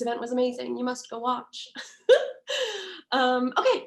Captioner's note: laughs